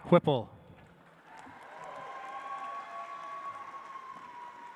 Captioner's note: audience applauds